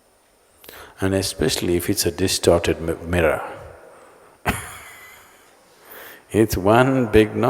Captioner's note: laughs